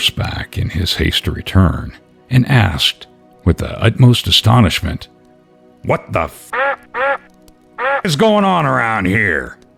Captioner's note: duck quacking